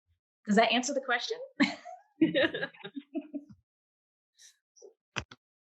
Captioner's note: panelists laughing